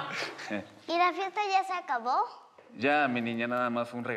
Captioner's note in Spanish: Risas